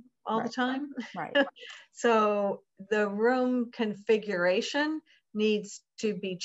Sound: laugh

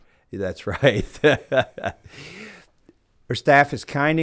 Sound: chuckling

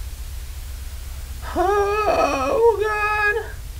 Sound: whimpers

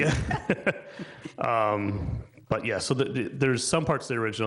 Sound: people chuckling

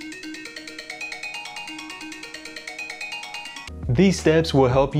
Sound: alarm blaring

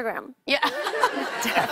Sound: laughter

